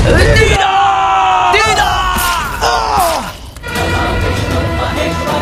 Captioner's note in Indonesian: berteriak